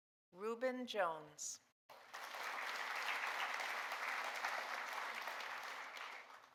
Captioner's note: audience applauding